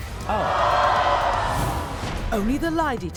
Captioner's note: booing